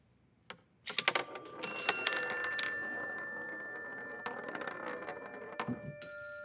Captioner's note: marble rattling; light bell music